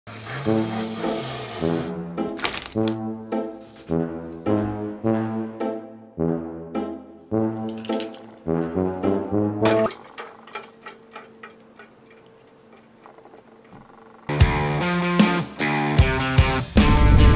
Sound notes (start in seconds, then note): 7.6 ice clattering; 14.3 rock music